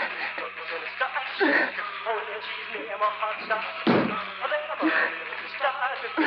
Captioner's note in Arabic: أصوات مجهود